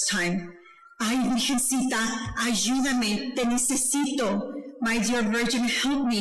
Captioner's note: speaking foreign language